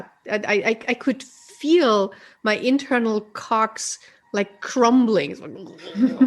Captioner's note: laughs